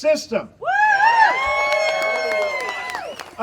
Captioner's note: audience cheering